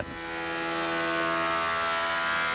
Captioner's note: engine noises